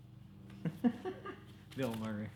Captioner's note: laughs